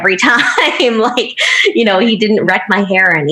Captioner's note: laughing